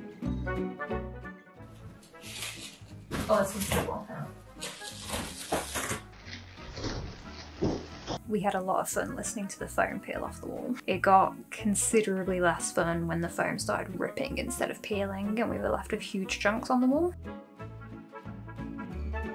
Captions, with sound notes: This one's a good one, hang on... *satisfying peeling noise* *slow motion satisfying peeling noise* We had a lot of fun listening to the foam peel off the wall. It got considerably less fun when the foam started ripping instead of peeling, and we were left with huge chunks on the wall.